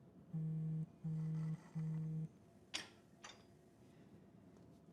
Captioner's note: Tara's watch vibrating